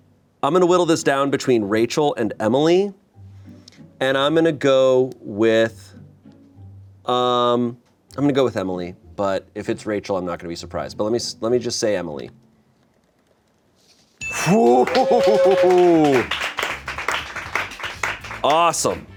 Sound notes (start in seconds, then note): 14.2 bell chimes; 14.3 sighs; 14.4 crew applauds